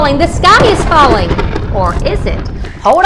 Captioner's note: booming